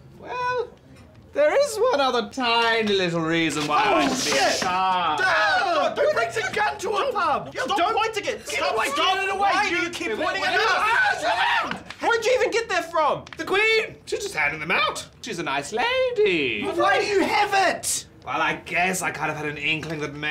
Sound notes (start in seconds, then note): 4.2 two men screaming; 10.8 men screaming